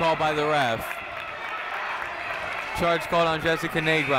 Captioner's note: crowd clapping